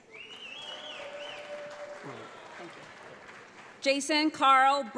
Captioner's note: audience applauds